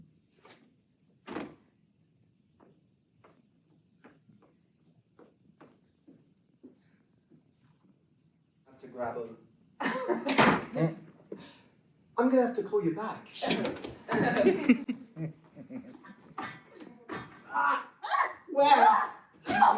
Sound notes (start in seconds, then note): 1.2 footsteps; 10.2 door slam; 14.0 footsteps running; 17.1 shrieks